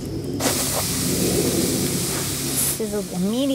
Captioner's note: steak sizzles on the coals